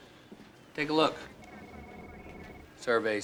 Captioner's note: laughs